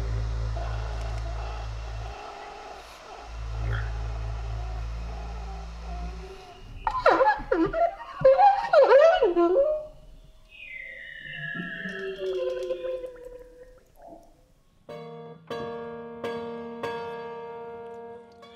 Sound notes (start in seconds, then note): 0.0 instrument rumbling; 7.3 instrument honking; 11.2 instrument hissing; 15.8 piano ringing